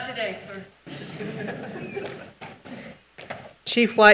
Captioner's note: participants laugh